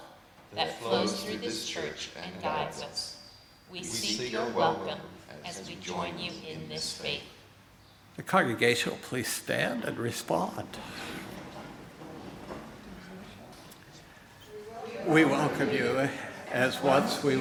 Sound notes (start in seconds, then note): 12.5 congregation responds in unison